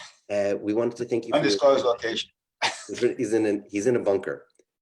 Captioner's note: laughs